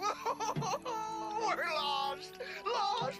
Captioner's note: sobbing